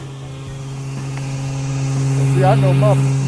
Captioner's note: motor whirring